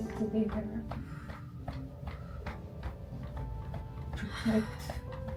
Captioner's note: gentle piano music; hands thudding